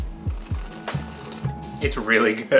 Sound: excitedly slurps soup

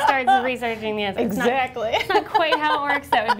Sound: laughing

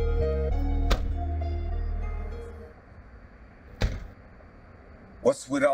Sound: car doors close

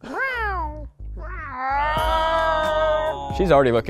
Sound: meowing sounds

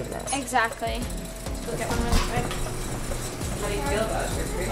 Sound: wheel whirring

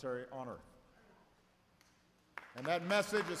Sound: applause

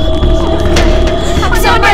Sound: door opening

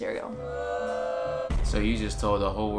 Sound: audience jeering

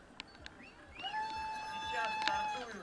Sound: shouts of cyclists

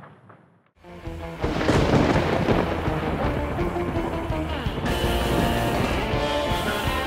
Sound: energetic eerie music; thunder cracking

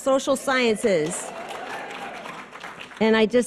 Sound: audience cheers and applause

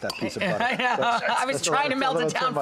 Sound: laughing

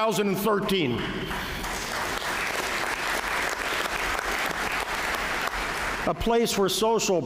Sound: applause

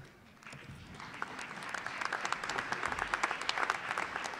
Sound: applause

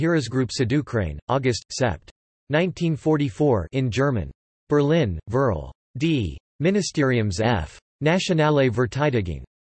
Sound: in German

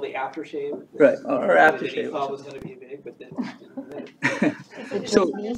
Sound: laughs

